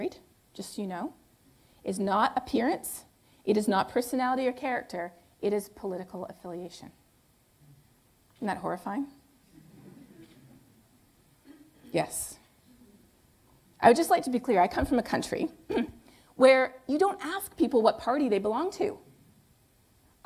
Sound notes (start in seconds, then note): 9.6 laughter